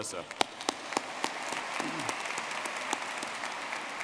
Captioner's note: all clapping